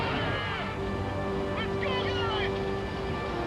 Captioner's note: Toland screaming